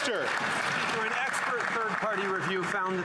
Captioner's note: some Applause